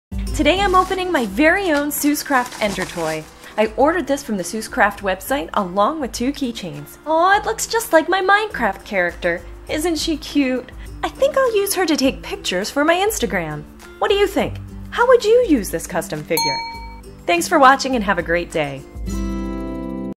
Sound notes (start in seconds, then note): 16.4 ding